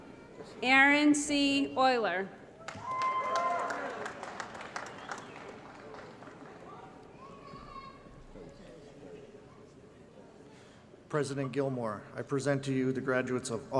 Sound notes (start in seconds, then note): 2.6 applause & Cheering